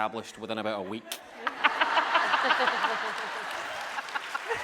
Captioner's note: laughing